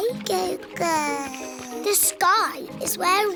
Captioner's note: babbles